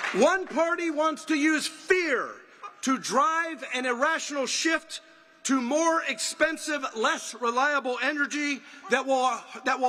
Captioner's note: applause